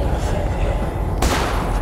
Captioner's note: gun fires